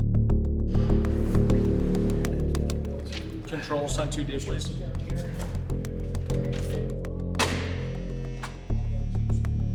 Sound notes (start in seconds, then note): 0.3 tense music; 7.1 door buzzing